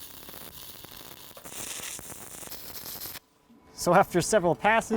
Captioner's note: sparking